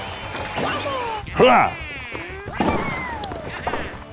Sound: grunts

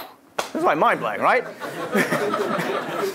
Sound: laugh

